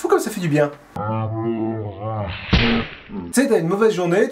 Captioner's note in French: Son de la baffe au ralenti